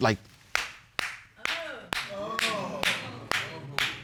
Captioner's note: clapping; audience gasps